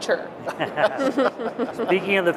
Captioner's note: laughter